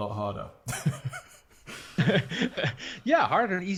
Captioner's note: laughing